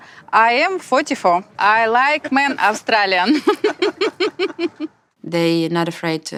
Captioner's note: laughs